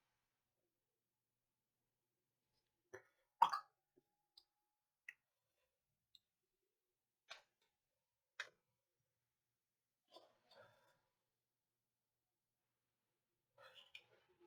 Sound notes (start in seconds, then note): 3.5 silence